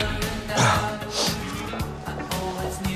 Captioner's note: clears throat